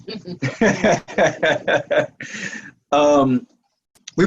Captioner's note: laughing